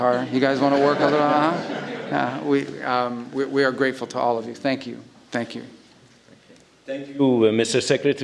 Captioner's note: laughter